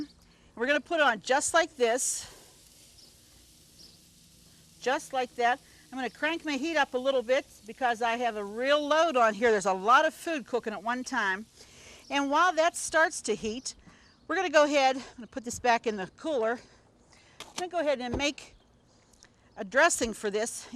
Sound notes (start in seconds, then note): 3.4 steak sizzles